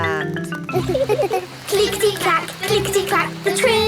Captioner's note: laughing